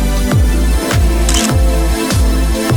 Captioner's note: photo Click